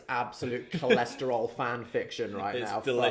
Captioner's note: chuckling